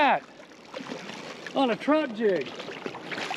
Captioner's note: fish splashing